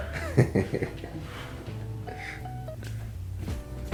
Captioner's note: laughs